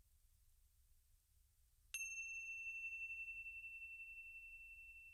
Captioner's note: bells chime